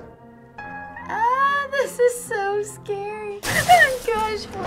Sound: clattering noises

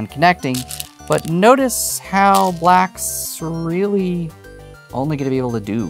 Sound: stones rattling

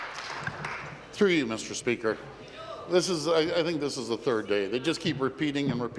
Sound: applause

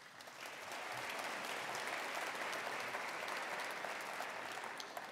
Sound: attendees applauding

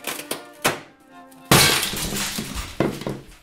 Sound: sudden loud shattering noise

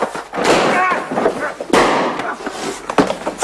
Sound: gunshots

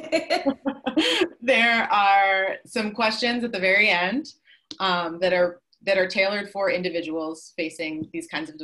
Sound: laughing

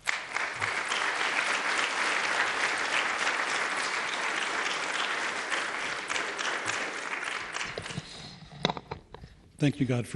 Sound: applause

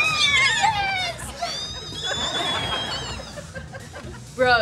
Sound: squealing

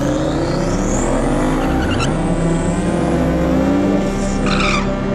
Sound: engines roaring

